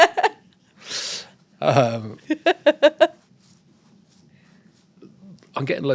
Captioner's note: laughter